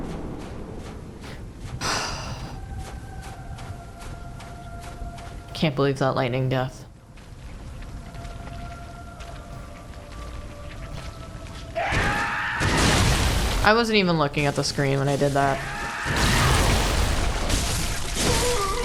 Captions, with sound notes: [sigh] Can't believe that lightning death. I wasn't even looking at the screen when I did that.